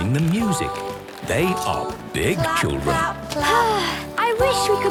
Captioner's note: Belinda sighing